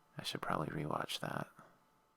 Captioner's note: static